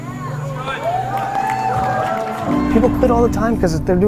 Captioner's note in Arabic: هتاف الجمهور